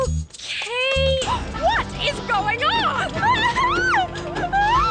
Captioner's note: Freddi Screams